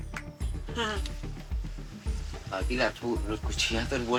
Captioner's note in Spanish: aplaude